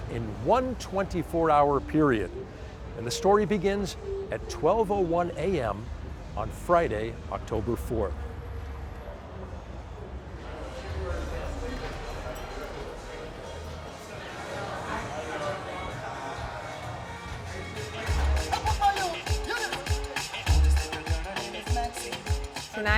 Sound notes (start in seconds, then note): 11.7 crowd talking; 17.2 tropical electronic music playing